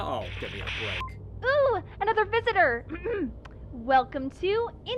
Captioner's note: clears throat